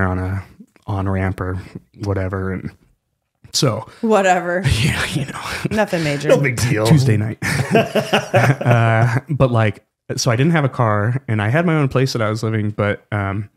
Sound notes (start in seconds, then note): 8.2 laughing